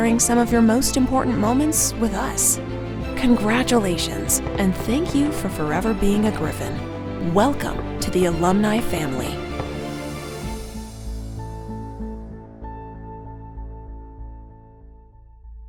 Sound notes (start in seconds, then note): 4.5 fireworks crackling; 7.4 fireworks crackling; 10.2 gentle music